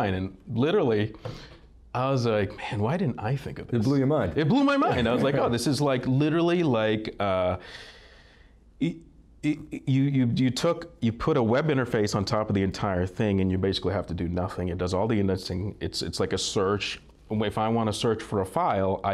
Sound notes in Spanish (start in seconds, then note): 4.8 Risas